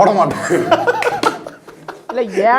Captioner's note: laughing